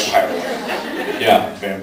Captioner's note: laughs